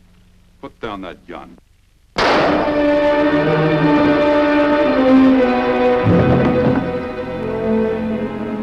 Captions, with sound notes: - Put down that gun. (gun fires) (dramatic music)